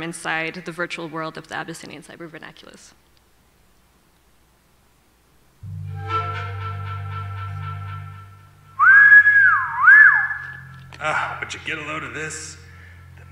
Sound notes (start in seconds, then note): 5.6 ambient music; 8.7 whistling